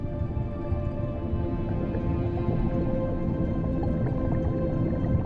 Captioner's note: bubbles burbling